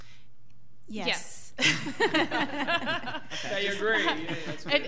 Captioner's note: laughs